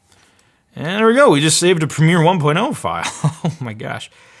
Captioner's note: laughs